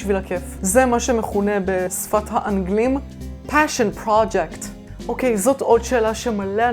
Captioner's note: speaks in English